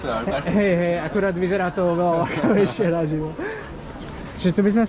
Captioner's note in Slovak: smiech